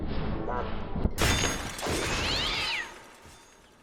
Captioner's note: metal clashes, cogs grumble, cats screech, and a blow lands; clunk